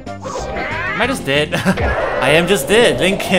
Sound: laughs

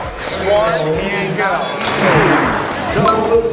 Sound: dings

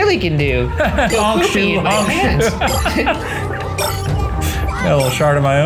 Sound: laughing

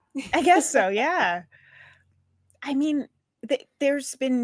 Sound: laughs

